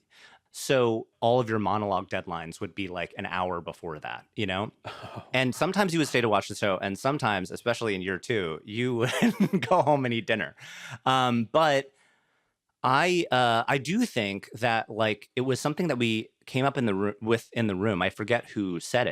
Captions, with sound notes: so all of your monologue deadlines would be, like, an hour before that, you know. And sometimes you would stay to watch the show, and sometimes, especially in year two... (CHUCKLES) ...you would go home and eat dinner. Um, but... I do think that, like, it was something that we came up with in the room. I forget who said it,